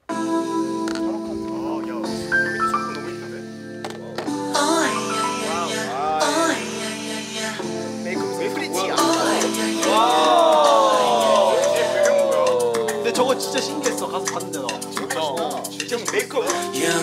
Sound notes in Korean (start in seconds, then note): 9.8 감탄